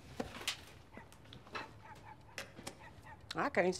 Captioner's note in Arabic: نباح الكلب